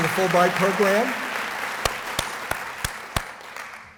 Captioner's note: applause